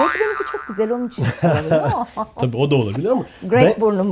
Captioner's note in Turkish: kahkaha